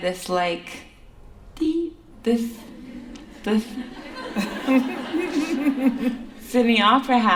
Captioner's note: laughter